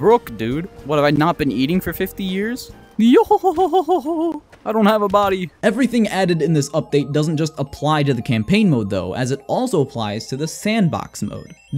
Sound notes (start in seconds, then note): 3.0 attempts a Brook laugh